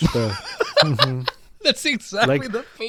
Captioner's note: laughing